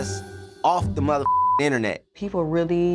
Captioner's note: beep